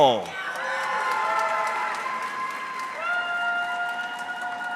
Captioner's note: audience cheering